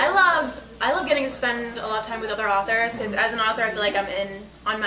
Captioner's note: none